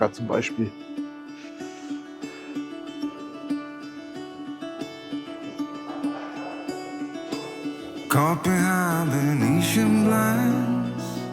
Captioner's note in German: Gelächter